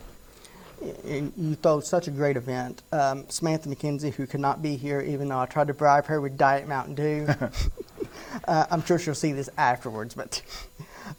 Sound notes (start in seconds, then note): 7.2 both laughing